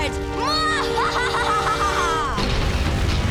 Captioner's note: evil laughing